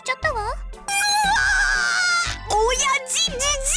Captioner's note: frustrated shout